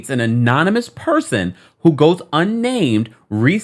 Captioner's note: none